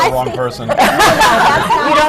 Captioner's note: laughter